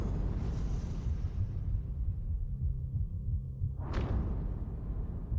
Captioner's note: rhythmic pounding